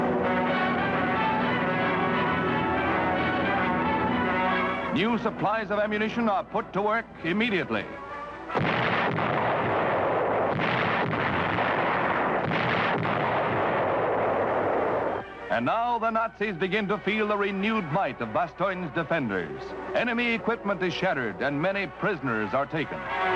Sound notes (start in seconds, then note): 0.0 plane engines roaring; 0.0 gentle music; 8.5 artillery firing